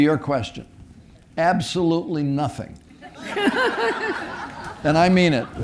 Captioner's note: audience laughing